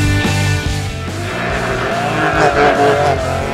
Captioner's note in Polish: dźwięk driftującego auta